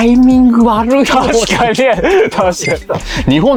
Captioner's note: laughs